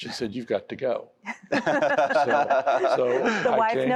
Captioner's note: laughter